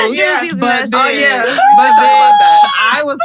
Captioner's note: screams